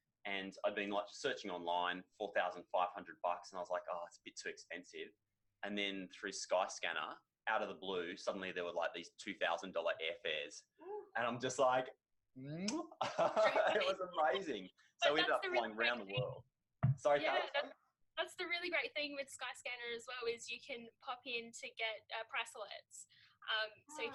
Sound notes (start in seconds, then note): 12.6 kissing noise; 12.7 laughs